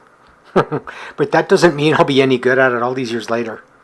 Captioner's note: chuckles